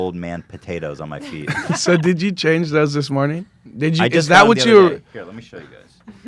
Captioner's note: laughs